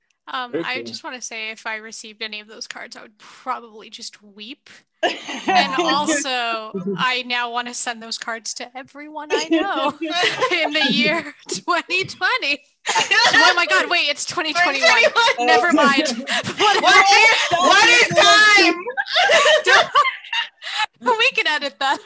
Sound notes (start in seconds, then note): 15.2 laughter